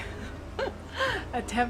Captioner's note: laughs